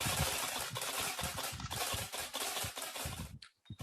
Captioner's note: camera shutters